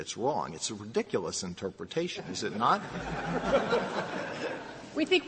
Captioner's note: laughter